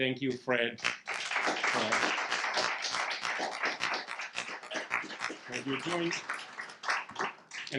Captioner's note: audience clapping